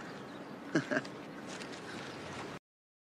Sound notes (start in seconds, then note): 0.7 laughs